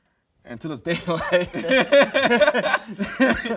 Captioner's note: laughs